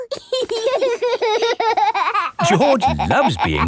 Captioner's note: laughing